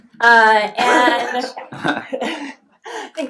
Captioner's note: laughs